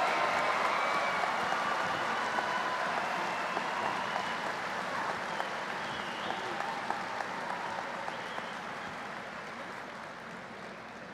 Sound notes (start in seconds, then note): 7.9 applause